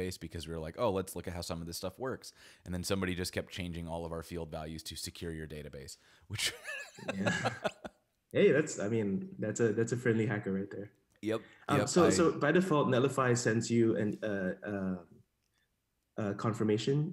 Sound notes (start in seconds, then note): 6.4 laughs